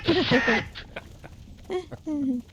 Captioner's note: laughing